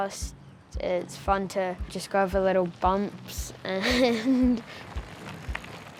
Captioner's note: giggles